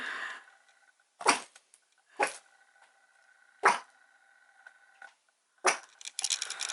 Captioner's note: barks